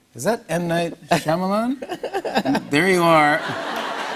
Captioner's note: laughs